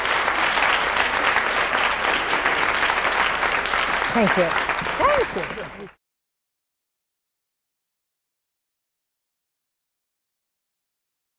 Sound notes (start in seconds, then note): 0.0 audience applauds; 6.9 overlapping chatter